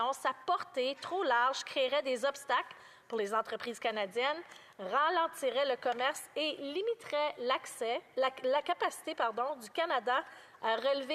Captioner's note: speaking French